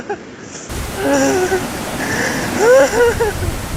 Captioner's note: crying